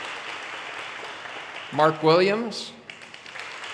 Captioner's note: audience cheers and applause